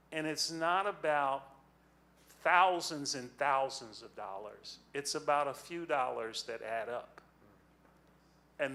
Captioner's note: none